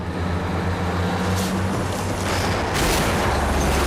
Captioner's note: truck whirling